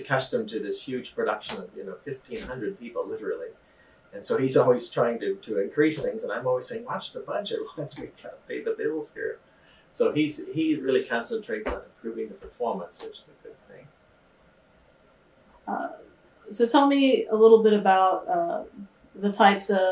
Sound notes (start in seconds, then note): 10.0 laughs